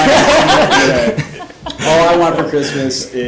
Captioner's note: everyone laughing